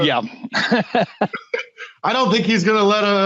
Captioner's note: laughing